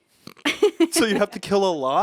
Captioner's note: laughs